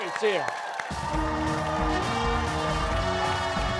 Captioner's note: cheers and applause